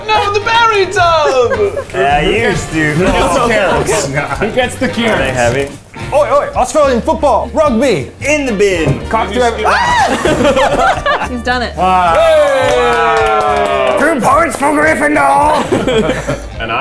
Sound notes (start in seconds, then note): 9.6 screaming; 9.6 laughing; 11.9 cheering; 15.4 laughing